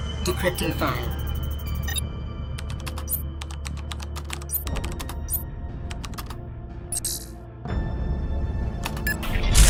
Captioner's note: more typing